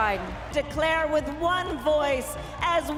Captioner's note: applause